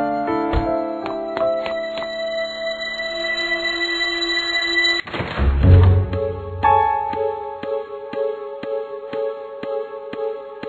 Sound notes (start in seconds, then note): 0.5 car door slam, hurried footsteps, rising tension; 5.0 door opening